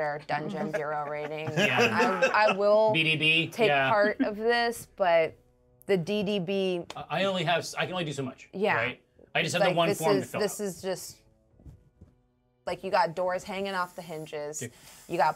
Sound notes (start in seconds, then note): 0.4 speaker laughs; 4.0 speaker chuckles